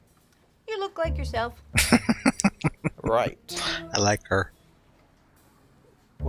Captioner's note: laughing